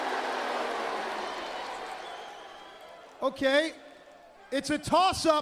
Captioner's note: crowd cheering